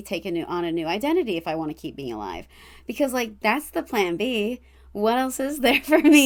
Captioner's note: laughs